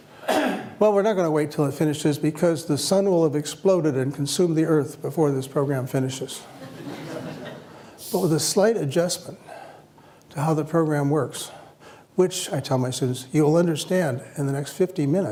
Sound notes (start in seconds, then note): 6.5 laughter